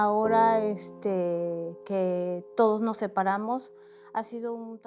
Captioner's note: speaking Spanish